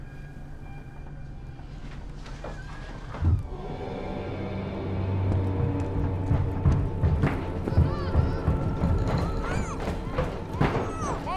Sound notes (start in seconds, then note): 2.2 door squeaking; 2.4 light dramatic music; 6.1 thudding; 7.6 muffled yelling